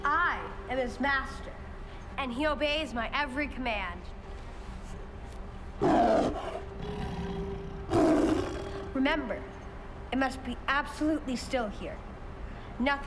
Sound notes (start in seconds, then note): 5.8 tiger growling